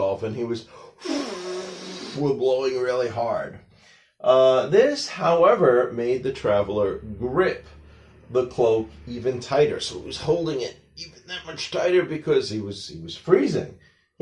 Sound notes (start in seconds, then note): 1.0 blowing sounds